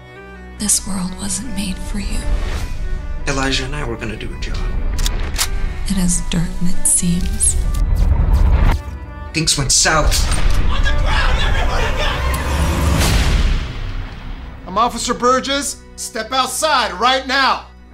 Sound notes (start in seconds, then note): 4.9 gun clicks; 13.4 gun goes off